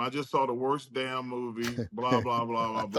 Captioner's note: chuckles